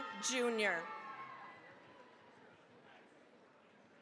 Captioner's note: cheering, applause